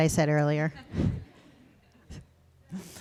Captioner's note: laughter